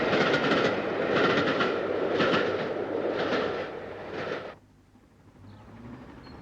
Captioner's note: train passes